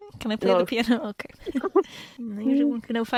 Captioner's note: both laugh